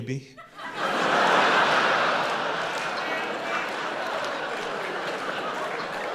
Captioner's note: audience laughing and applauding